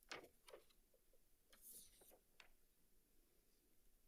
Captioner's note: paper rustling